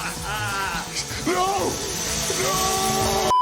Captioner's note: manical laughing; whirring